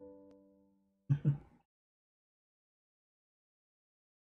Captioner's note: chuckles